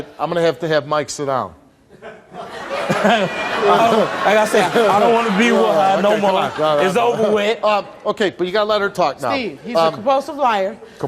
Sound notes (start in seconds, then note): 2.0 audience laughs